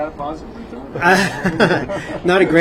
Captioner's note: laughing